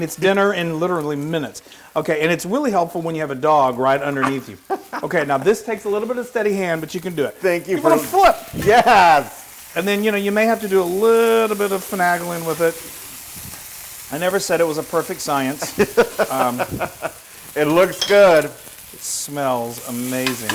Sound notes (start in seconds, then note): 15.4 laugh